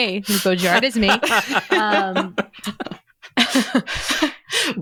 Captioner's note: laughter